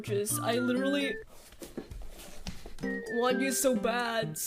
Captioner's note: shuffling